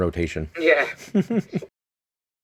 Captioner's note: laughs